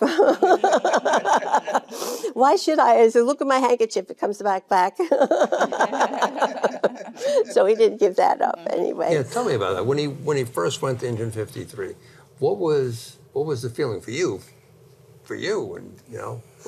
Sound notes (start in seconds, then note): 0.0 Jane laughing; 5.0 all laughing